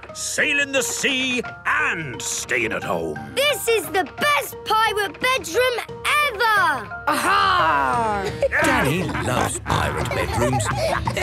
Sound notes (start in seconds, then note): 8.1 laughter